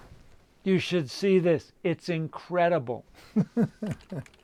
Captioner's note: laughs